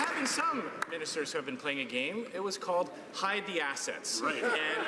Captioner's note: some Applause